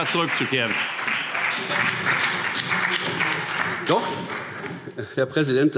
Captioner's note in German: Beifall BÜNDNIS 90/DIE GRÜNEN, SPD, Freie Demokraten und DIE LINKE